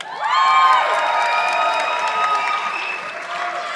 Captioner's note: audience clapping